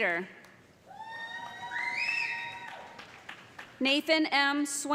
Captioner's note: cheers and applause